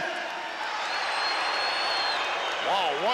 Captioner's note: crowd cheers and boos